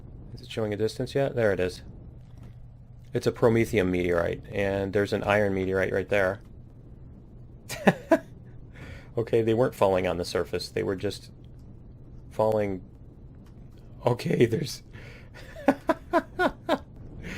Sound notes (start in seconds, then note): 7.7 laughs; 15.4 laughs